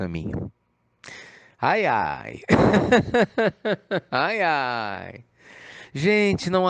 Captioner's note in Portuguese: Risos